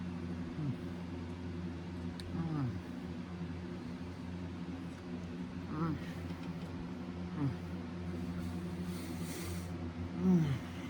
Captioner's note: pleasantly moans and groans